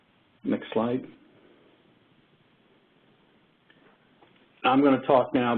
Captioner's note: 2 seconds pause